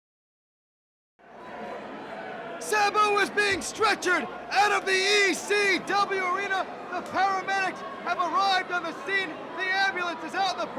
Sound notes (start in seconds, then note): 3.8 crowd chatter